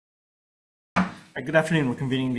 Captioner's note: gavel taps